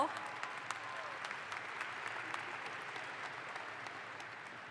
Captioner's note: audience applauds